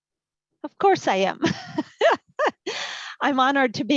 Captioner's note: laughs